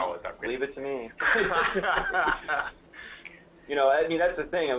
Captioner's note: laughter